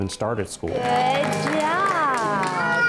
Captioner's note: applause